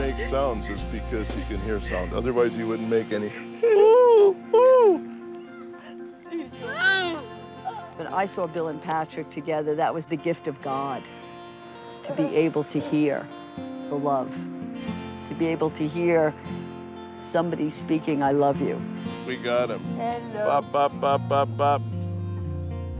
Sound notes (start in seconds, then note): 3.4 hooting